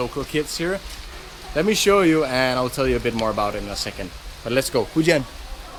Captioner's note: rain